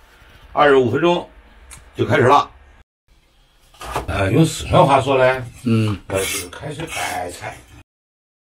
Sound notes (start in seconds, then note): 5.5 in Sichuan accent